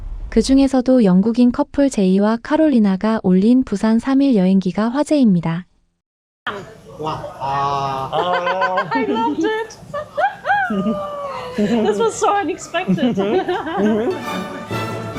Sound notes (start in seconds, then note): 8.1 laughter